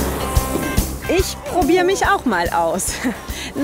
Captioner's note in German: Sie ächzt